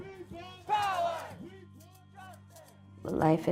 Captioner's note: crowd